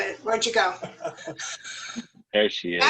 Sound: laughter

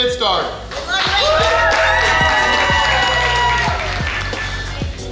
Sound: cheering & Clapping

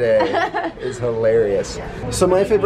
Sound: laughs

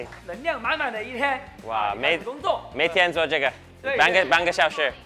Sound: both speak Mandarin

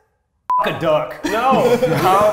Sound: beeps

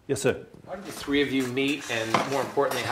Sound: voiceover

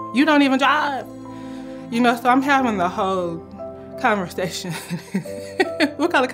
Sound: laughs w/ unbelief

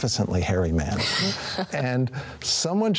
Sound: chuckles

